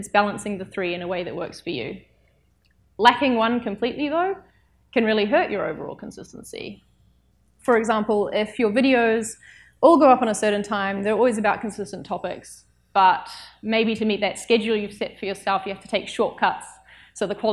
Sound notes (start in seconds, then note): none